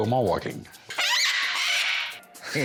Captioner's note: squawks; all laughing